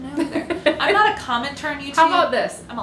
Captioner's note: laughter